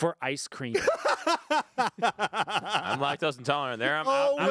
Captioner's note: laughing